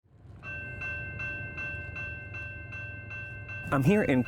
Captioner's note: railway crossing bell dinging